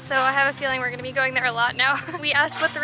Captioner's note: laughter